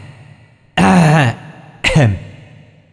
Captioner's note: ahem; cough-cough; ahem